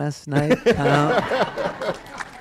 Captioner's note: laughter